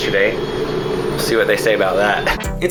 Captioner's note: helicopter blades revving up